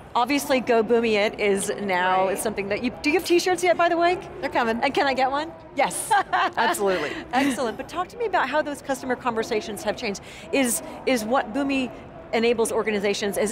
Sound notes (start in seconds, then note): 6.0 both laughing